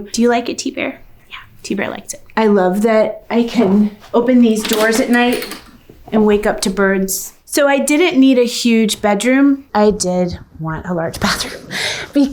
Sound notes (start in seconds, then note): none